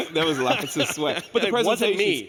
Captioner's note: laughing